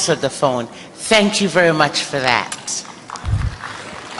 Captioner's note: applause